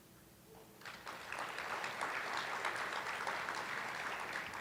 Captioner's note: attendees applauding